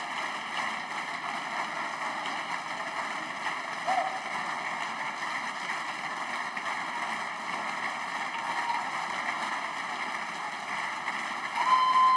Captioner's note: applause